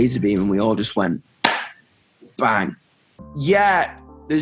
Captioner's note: claps